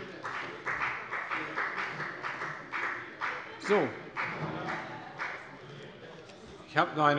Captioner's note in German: Beifall bei der FDP